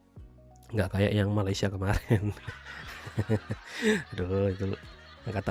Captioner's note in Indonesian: tertawa